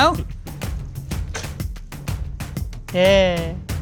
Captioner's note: board clapping